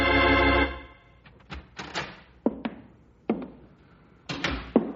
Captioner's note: knocking on door